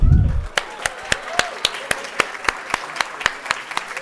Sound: audience applauding

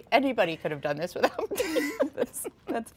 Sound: both laughing

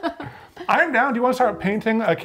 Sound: playful musical score; both laugh

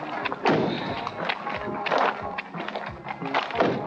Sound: doors slam

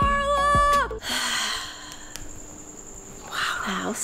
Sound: sighs

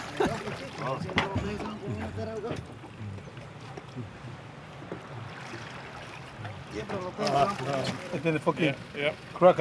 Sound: clattering

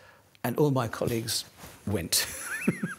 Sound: laughs

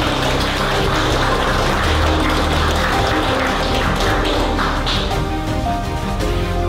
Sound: applause

